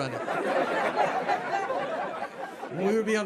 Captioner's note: audience laughs